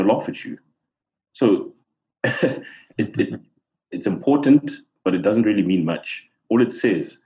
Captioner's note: laugh